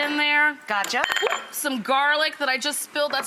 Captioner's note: dish clattering